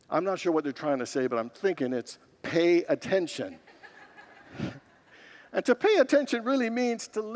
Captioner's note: congregants laugh